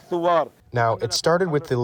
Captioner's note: through translator